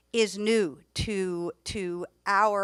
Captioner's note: none